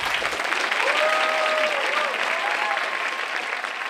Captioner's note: applause